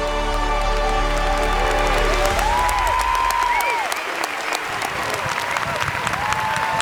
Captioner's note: students cheering and applauding